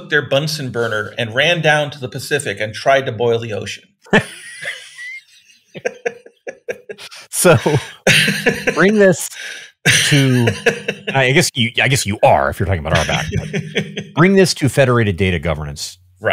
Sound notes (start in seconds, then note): 4.1 both laughing